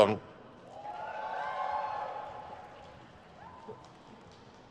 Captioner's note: crowd cheers